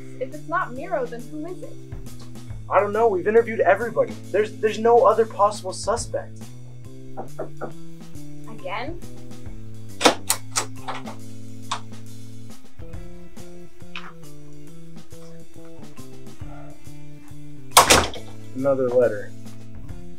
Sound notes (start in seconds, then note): 7.1 knock; 10.0 door opening; 17.7 door closing